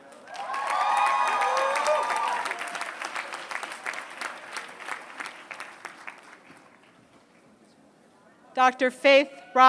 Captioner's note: applause